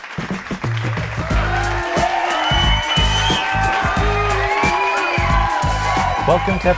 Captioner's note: applause